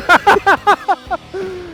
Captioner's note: laughing